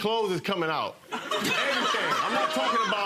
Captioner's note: audience laughing